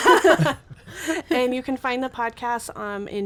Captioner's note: group laughs